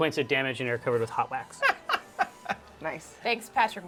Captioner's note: laughs